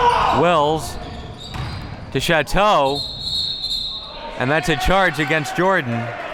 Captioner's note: whistle blowing